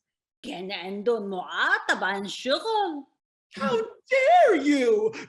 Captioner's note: speaking in foreign language